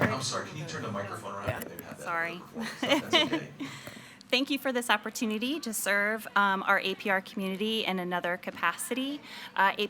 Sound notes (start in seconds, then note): 1.8 speaks faintly